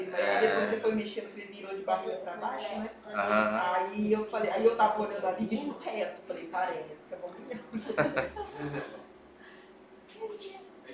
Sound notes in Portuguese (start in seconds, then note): 7.4 risos